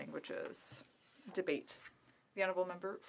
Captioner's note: speaking French